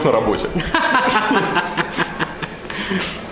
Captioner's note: laughter